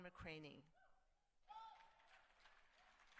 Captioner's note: cheers